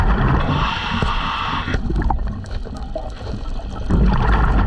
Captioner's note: water gurgling